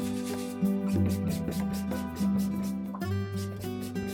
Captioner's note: the soothing sounds of a scrub brush on cotton